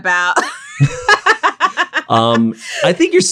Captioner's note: both laugh